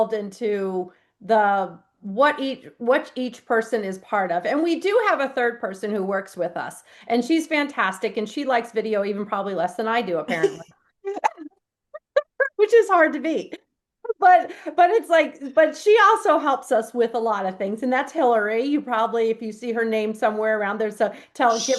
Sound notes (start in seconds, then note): 11.9 laughs